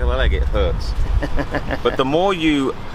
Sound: laughing

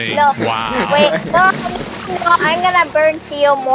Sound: chuckles

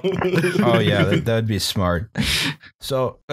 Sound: laughter

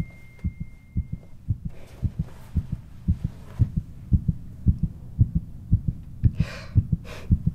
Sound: phone dings

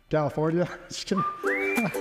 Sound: chuckles

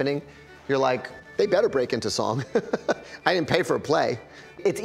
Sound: laughs

